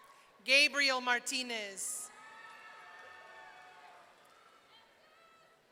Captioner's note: audience cheering